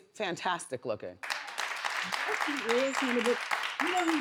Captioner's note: audience claps